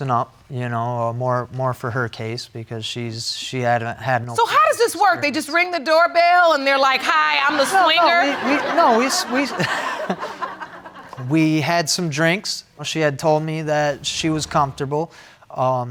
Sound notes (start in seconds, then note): 7.5 laughing